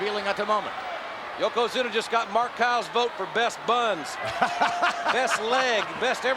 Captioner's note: laugh